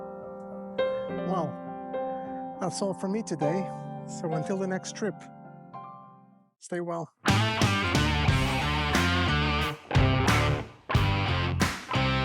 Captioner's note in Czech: Potlesk